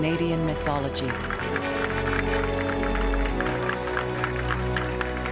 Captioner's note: applause